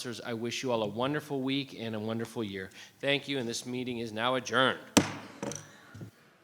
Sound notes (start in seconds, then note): 4.9 gavel thuds